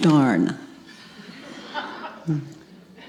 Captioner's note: audience laughs